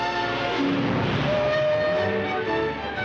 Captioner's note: horn toots